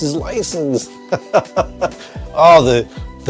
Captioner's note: laughing